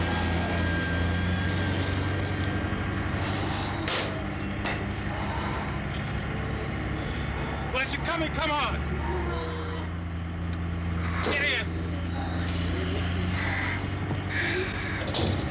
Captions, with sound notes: - Well, if you're coming, come on. Get in. (groaning)